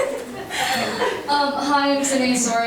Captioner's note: attendees laughing